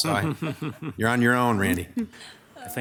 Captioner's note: chuckles